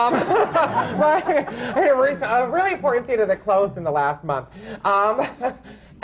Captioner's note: laughter